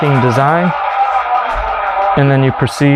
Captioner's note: machine powers down